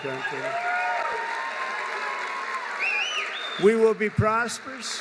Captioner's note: applause